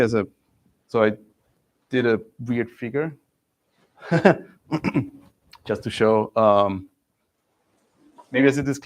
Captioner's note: laughs